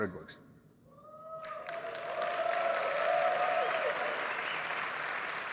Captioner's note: audience cheering